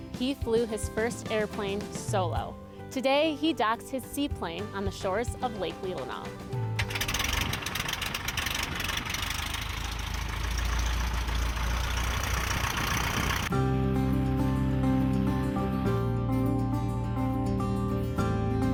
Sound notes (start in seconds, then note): 10.0 engine revving; 13.4 inspiring music